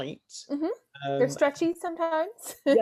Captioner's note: laughs